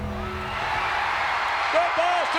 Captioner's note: ominous music; audience cheering